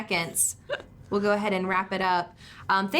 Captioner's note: chuckles